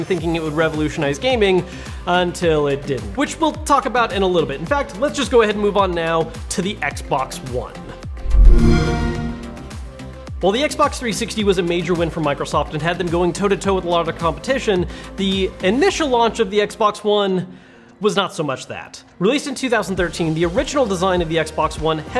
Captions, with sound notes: thinking it would revolutionize gaming until it didn't. Which we'll talk about in a little bit. In fact, let's just go ahead and move on now to the Xbox One. (logo whooshing) While 360 was a major win for Microsoft and had them going toe to toe with a lot of the competition, the initial launch of the Xbox One was not so much that. Released in 2013, the original design of the Xbox One